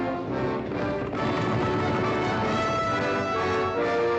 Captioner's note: triumphant music; hooves pounding; triumphant music